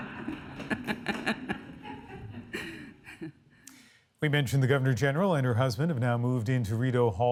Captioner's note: laughter